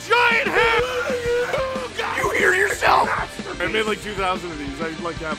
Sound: Harry potter screaming; screaming

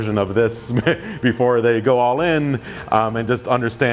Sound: laughs

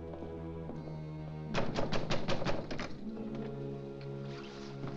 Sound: ominous music; pounding on door

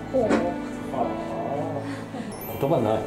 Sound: sigh

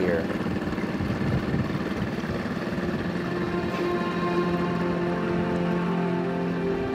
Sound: engine droning; somber music continues

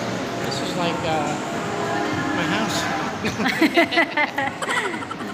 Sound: laugh

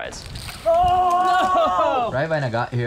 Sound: groans

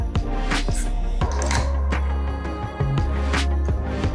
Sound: clicks

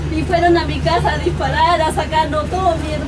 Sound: female voice Mapuche

